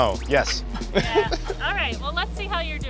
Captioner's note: giggling